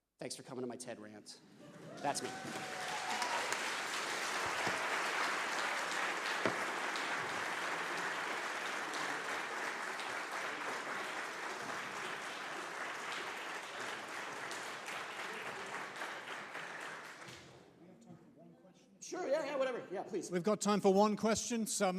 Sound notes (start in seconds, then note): 3.1 audience applauding